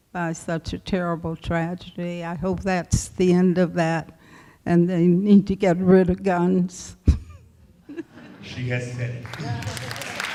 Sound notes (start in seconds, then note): 7.8 laughs